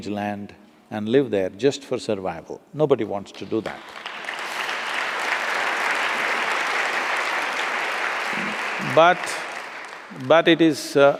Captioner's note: applause